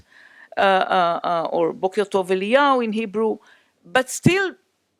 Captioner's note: hebrew